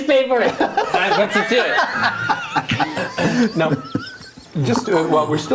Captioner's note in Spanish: risas